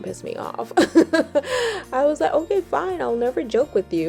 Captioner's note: laughs